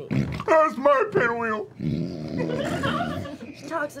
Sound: snorts

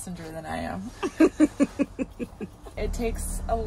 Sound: laughing

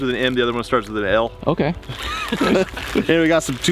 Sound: several laughing

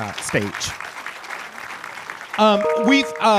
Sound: audience applauding

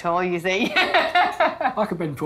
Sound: laughs

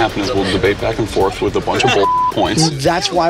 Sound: beep

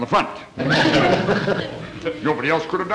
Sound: audience chuckling

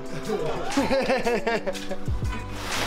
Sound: laughs

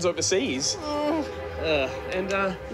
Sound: groans

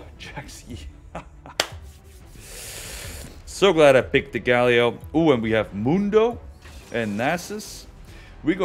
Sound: laugh

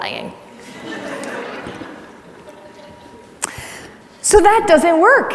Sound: audience laughs

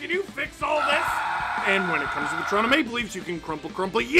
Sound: screaming

